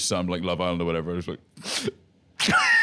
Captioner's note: sniffles; laughs